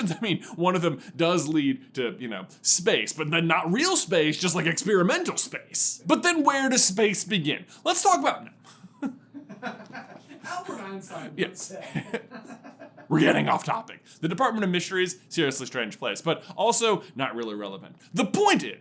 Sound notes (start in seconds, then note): 8.5 laughing in the background; 8.5 laughs